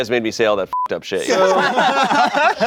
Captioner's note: beep; everyone laughing